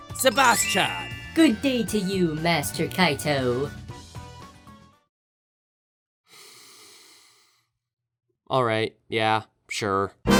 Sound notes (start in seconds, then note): 6.4 inhales